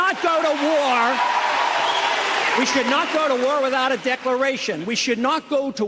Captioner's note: cheers and applause